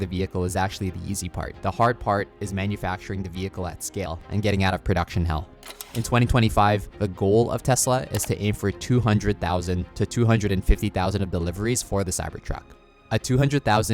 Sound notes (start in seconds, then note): 5.6 graphics shuffling; 8.0 cursor clicking